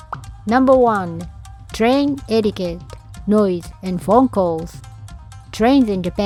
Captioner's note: noise & Phone Calls